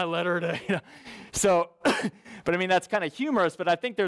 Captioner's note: coughs